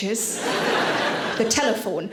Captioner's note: audience laughing